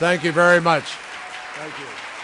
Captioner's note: applause